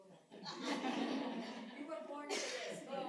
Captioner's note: laughter